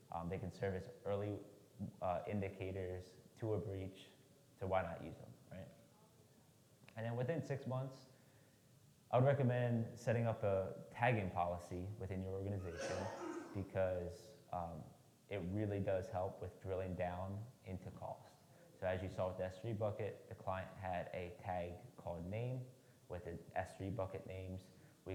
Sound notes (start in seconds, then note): 12.6 attendee clears throat